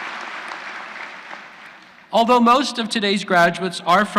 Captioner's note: applause